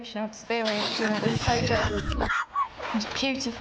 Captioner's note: record scratching